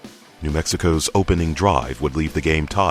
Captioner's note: voiceover